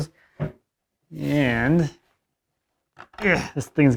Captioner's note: grunting